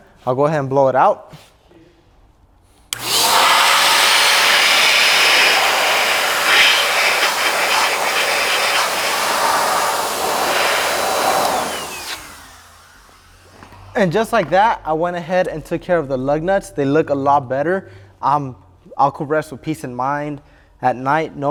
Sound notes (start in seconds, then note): 2.9 blower blowing